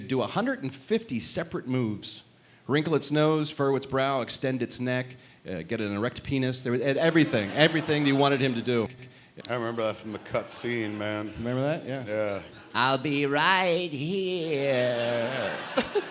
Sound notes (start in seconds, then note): 12.9 imitating e.t